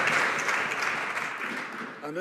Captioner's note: some Applause